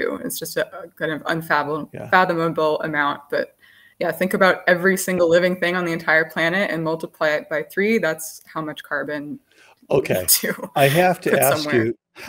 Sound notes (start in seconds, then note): 10.7 laughs